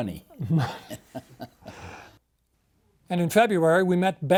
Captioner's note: chuckles